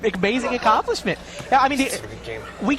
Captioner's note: crowd laughs